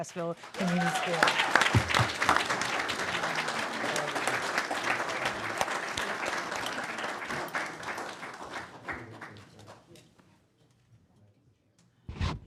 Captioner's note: applause